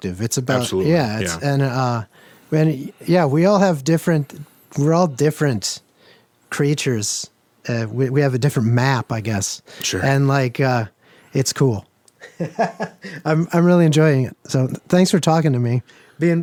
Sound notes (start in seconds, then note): 12.2 laughs